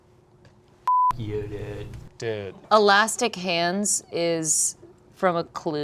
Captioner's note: beep